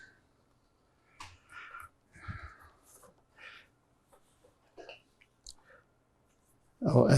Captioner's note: pauses 6 seconds